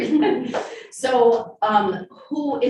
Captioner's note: women laughing